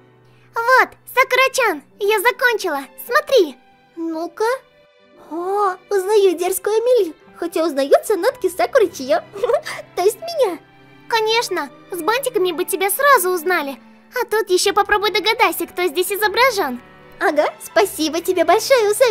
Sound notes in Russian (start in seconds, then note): 9.5 смеется